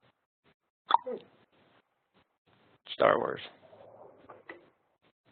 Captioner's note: clicking